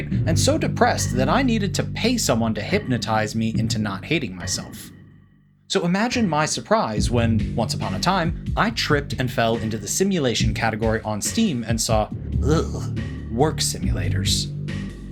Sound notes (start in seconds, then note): 11.7 shudder